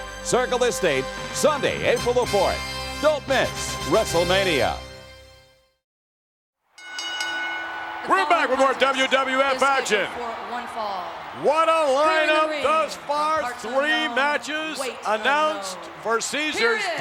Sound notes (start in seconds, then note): 6.7 bell rings; 6.7 audience cheers